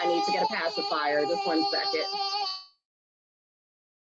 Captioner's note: baby cries